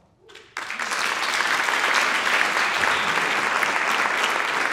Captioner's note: audience applauding